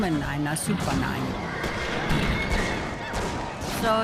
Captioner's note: gunshots, horse whinnying